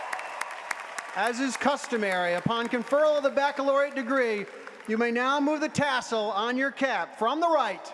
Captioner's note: cheers and applause